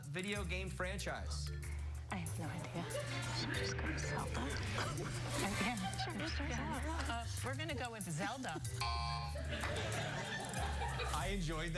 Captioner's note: laughter